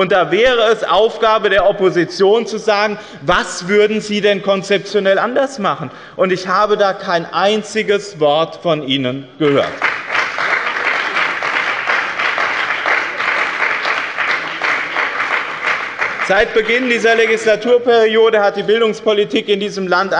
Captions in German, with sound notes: Da wäre es Aufgabe der Opposition, zu sagen, was Sie konzeptionell anders machen würden. Ich habe dazu kein einziges Wort von Ihnen gehört. (Lebhafter Beifall bei dem BÜNDNIS 90/DIE GRÜNEN und der CDU) Seit Beginn dieser Legislaturperiode hat die Bildungspolitik in diesem Land